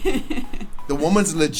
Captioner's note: laughs